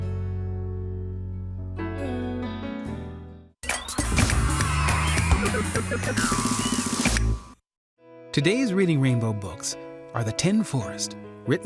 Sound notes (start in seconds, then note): 3.8 bright music; 3.8 children cheering